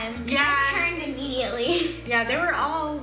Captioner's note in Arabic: يضحك